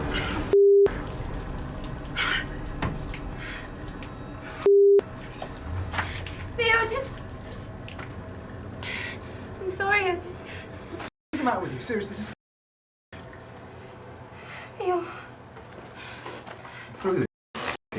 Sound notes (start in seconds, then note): 2.1 gasping